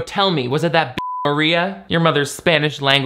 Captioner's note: beep